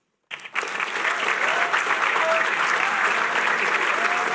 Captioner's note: applause